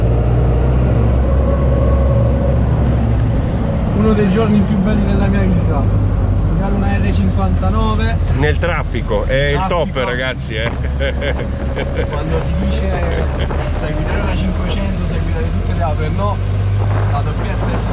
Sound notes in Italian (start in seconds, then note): 10.6 Risate